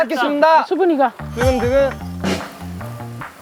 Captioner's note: heart beating